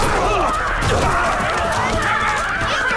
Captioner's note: ladies Yelling